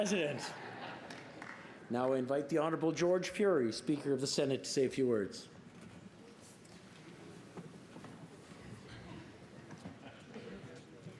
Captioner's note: applause